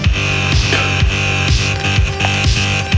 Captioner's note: Khalid spits; dramatic dance music